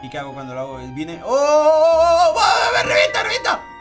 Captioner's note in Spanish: Sorprendido